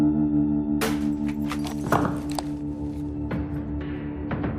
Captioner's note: glass shattering